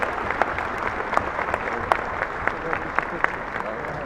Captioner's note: applauding